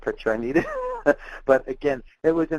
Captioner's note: laughing